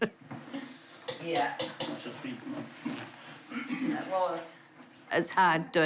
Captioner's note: chuckles; clears throat